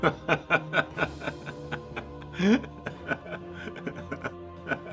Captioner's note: laughs